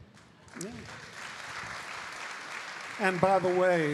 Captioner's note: audience applauding